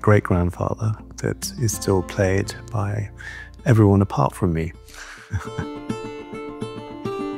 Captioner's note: laughs; bright music continues